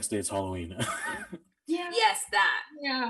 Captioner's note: chuckling